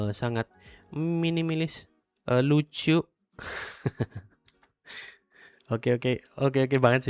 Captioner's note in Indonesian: tertawa